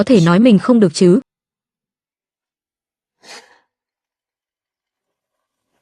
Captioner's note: khịt mũi